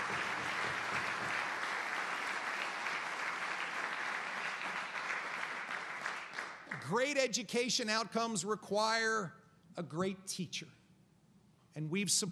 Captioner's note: applause